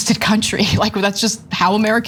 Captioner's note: laugh